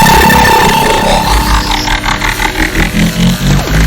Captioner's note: electronic humming